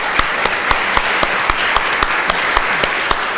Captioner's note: applause